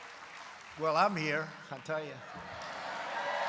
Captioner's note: applause; laughter and applause